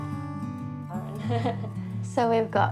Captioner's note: laughs